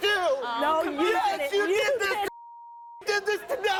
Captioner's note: beep